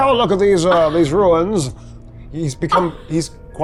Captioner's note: chuckling